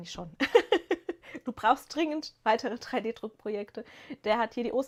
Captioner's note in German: gelächter